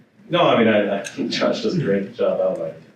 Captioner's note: laughs